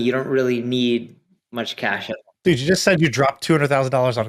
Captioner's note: none